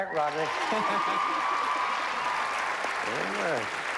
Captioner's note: cheers and applause